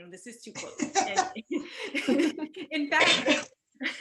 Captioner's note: laughing